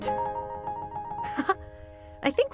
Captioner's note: laughs